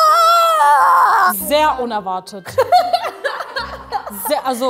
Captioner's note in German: Lachen